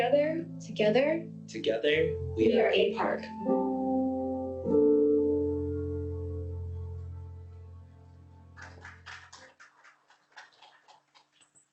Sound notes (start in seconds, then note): 8.5 applause